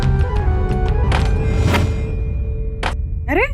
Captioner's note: door closes